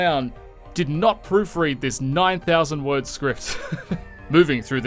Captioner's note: snickering as the man behind the curtain is revealed